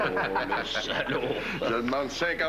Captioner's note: Rires